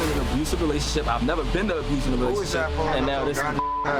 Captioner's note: beeps